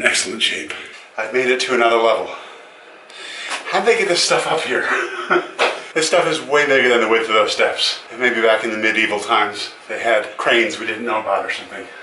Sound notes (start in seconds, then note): 4.8 laughs